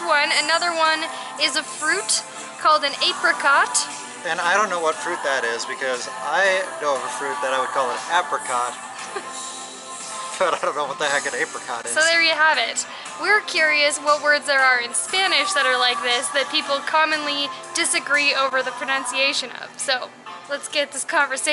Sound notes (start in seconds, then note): 9.0 laughter